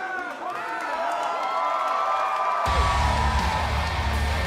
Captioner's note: cheers and applause